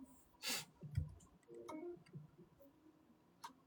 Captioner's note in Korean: 콧방귀